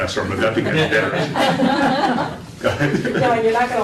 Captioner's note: laughter